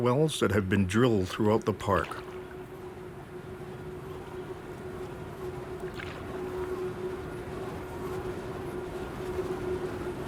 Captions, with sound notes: that have been drilled throughout the park. (generator humming)